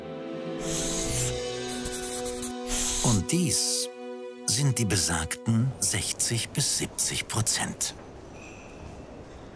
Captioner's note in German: Schreibgeräusche